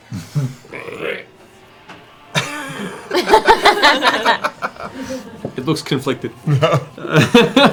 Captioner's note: reptilian whimper